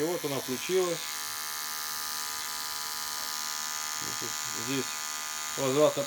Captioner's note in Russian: слышна работа электрической щетки